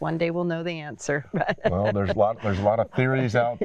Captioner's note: laughs